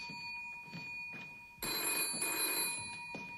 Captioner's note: telephone rings